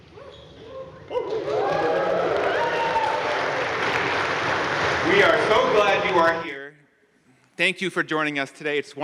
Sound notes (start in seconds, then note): 1.2 crowd cheering and applauding